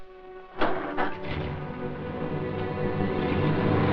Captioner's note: car starts